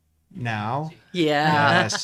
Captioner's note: laughs